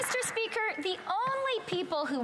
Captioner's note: some Applause